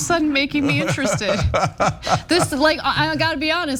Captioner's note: laugh